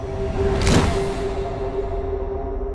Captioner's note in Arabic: موسيقى مشؤومة; ومضات الكاميرا